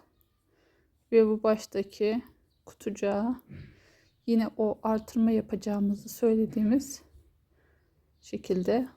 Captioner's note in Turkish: boğazını temizler